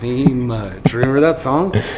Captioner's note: laughing